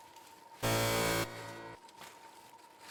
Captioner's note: buzzer